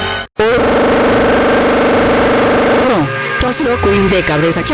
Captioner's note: angry work whistle